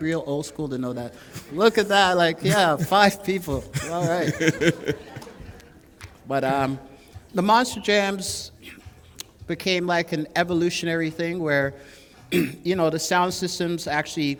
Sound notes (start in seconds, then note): 4.4 laughter